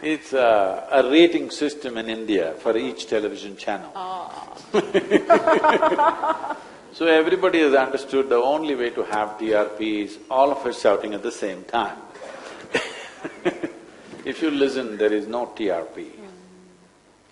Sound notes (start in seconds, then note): 4.7 both laugh; 12.8 laughs